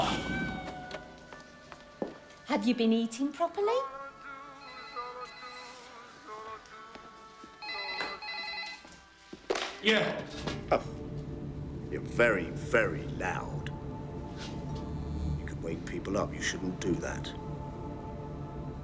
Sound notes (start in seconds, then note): 4.6 telephone rings